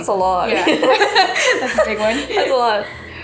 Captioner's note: laughing